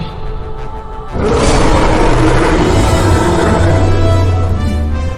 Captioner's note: dinosaur roaring